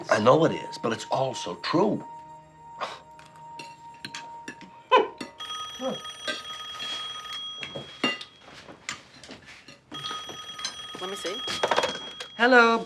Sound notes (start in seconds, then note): 5.3 phone ringing